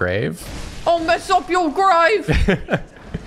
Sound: quivery british accent

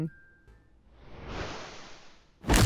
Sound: whoosh; crack

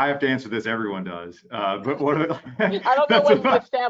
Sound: chuckling

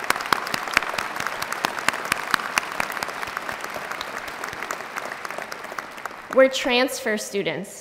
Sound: applause

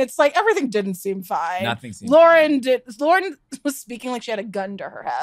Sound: laughs

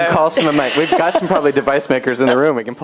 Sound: laughter

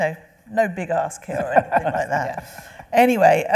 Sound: laughing

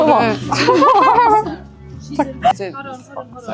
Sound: the videographer was laughing so hard

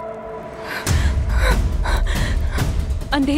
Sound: panting

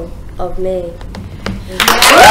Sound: applause

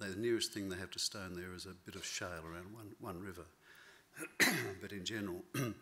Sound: clears throat

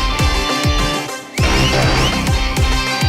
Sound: whistling

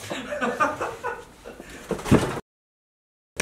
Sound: laughter

